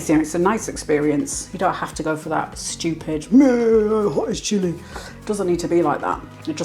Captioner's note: macho voice